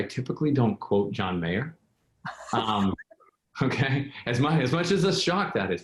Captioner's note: laughs